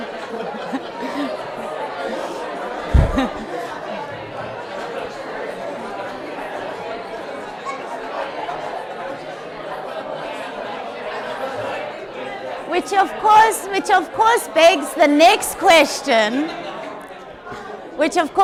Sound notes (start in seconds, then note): 1.4 audience chatters; 2.9 chuckles